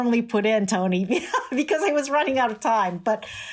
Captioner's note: laughter